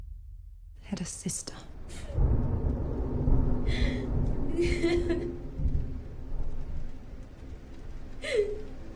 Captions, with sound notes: Had a sister! [heavy storm] [crying]